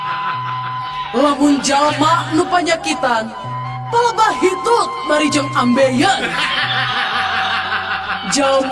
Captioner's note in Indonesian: tertawa; tertawa